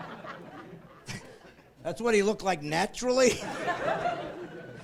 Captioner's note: laughing